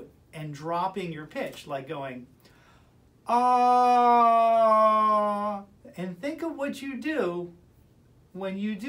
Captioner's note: vocalizing